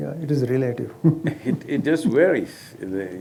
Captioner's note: laughs